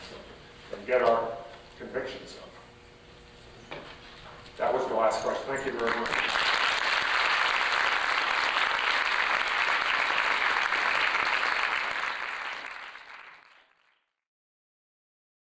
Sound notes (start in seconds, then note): 6.8 applause